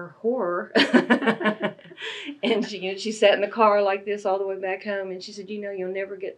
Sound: laughs

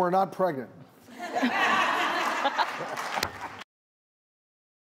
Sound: laughing

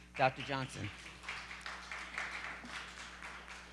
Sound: applause

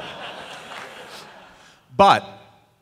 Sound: laughter

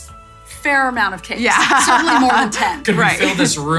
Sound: laughing

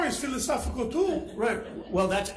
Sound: attendees laughing

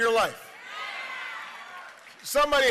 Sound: crowd cheering

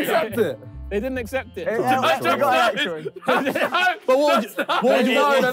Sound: all laughing

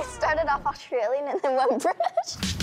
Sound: laughs

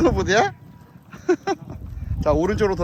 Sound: laughing

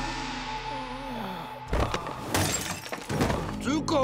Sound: moaning

